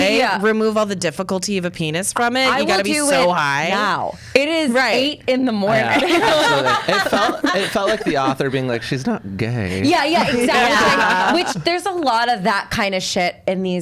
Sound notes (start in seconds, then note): 5.7 laughs